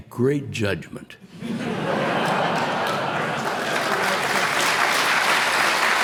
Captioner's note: applause